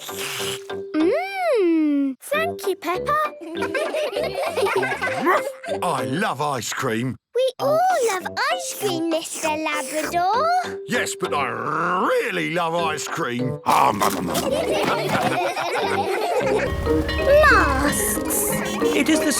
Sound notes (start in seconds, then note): 0.0 slurps; 16.7 bell ringing